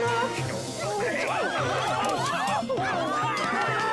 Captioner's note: crowd screaming; laughs